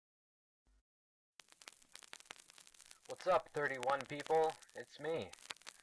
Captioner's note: poor quality, vinyl-battered voice